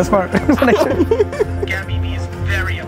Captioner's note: laughs